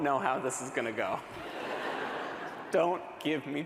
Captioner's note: laughter